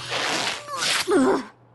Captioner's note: grunt